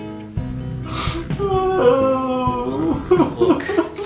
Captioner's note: Larry crying